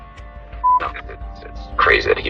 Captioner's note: on phone